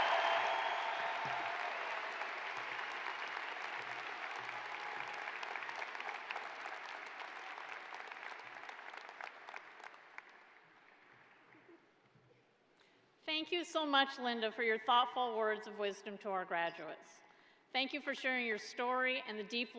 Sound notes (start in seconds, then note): 7.1 cheers and applause